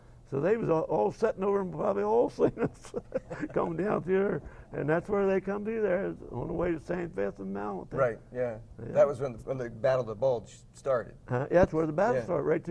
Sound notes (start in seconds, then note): 2.4 laugh